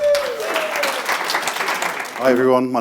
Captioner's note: audience applauds